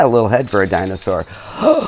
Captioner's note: bells ringing